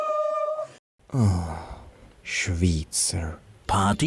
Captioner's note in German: Seuftz